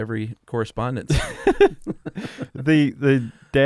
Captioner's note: laughter